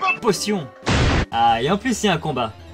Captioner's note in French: boom